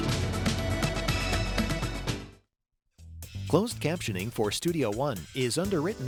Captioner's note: voiceover